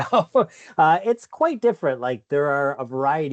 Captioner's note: laughs